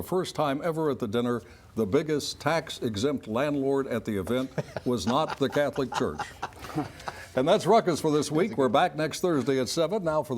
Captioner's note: laughter